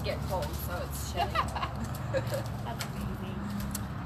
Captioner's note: laughs